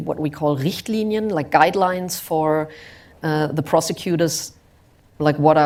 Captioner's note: german